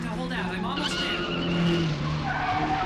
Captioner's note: tyres screeching